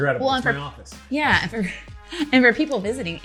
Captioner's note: laughter